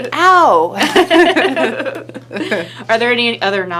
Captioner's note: laughing